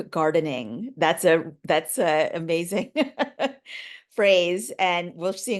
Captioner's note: laughing